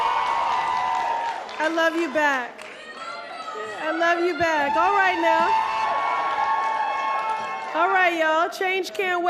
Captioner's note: applause